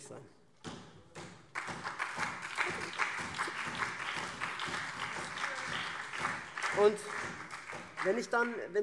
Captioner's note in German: Beifall SPD, CDU und BÜNDNIS 90/DIE GRÜNEN